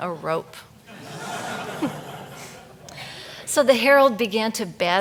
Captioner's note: audience laughs